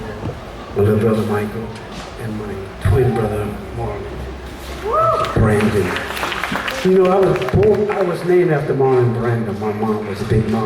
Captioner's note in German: applaus